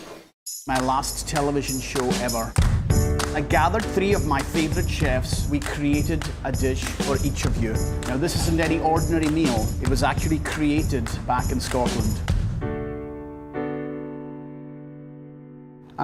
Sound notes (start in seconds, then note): 0.0 clanking and clamoring sounds in a kitchen; 0.6 with Scottish accent; 2.3 upbeat music; 12.6 upbeat music